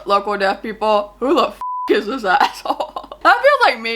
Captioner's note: laughs